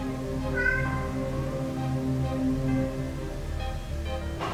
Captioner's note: cat meowing